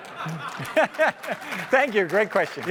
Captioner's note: laughter; applause